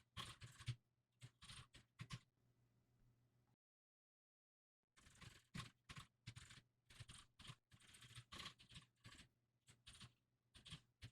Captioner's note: typing sounds